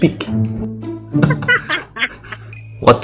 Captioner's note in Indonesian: tertawa dalam bahasa Nordeste